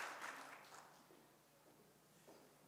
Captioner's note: audience applauds; applauds fade